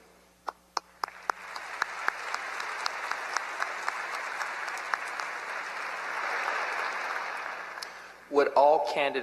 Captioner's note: applause